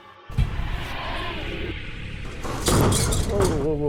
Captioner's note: eerie music; door slamming